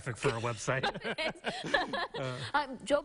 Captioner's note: laughing